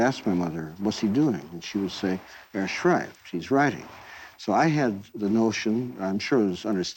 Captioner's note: in Yiddish